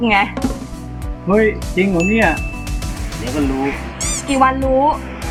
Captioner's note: in arrogant tone